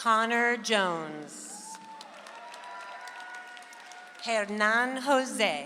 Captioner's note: audience applauds